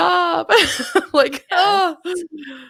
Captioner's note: laughs